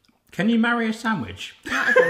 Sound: laughs

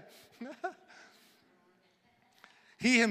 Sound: chuckling

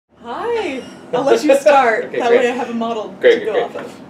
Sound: laughs

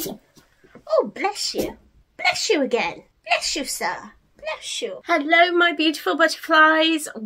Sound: puppy sneezes a few times

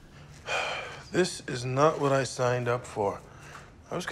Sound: sighing

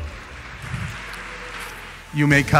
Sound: some audience applause

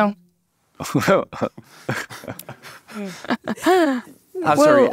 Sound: all laugh

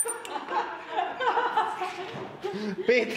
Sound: laughter

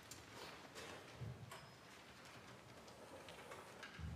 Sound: papers ruffling

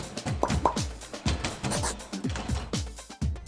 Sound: pop pop; pencil scratching

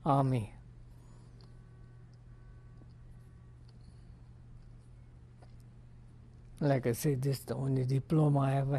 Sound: pauses for 6 seconds

